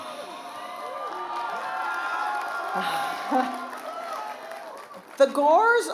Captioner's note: cheering and applause